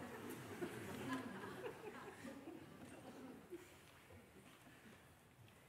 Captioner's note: Lachen